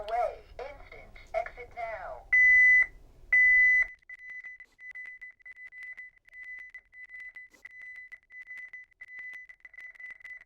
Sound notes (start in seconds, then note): 2.2 high pitched beeping